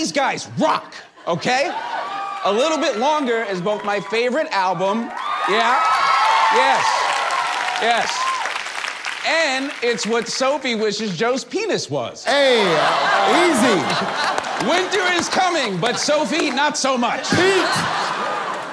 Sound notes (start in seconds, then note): 2.2 people cheering; 5.8 people cheering